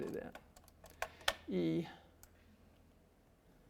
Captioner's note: clicks and scrolls mouse